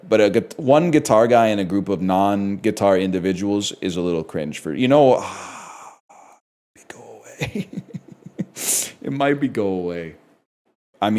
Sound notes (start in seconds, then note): 6.0 whispers; 7.3 chuckles